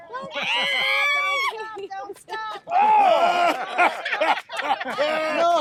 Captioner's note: everyone laughing and cheering